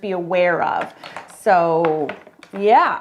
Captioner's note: markers clattering